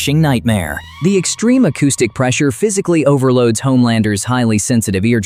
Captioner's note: sarcastic